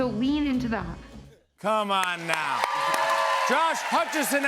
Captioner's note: cheers and applause